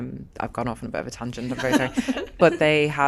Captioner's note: laughs